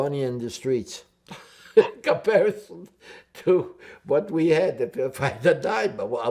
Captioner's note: laughing